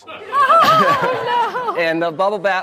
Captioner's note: audience laughs